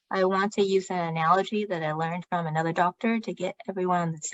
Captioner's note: speaking chinese